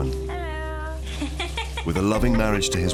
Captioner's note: laughing